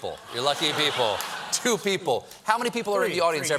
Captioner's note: applause